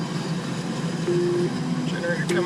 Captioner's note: alarm sound